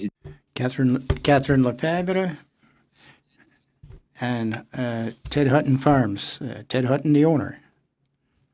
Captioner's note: speaking French